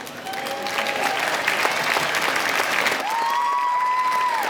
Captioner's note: applause